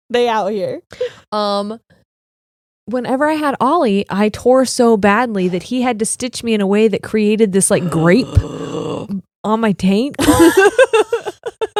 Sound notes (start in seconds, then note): 7.8 gasping; 10.2 both laughing